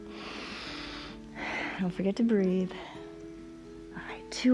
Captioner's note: exhales; inhales and exhales